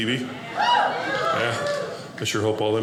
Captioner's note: audience laughing